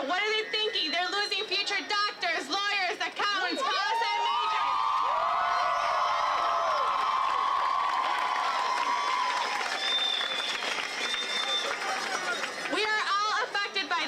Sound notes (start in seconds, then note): 7.3 massive cheering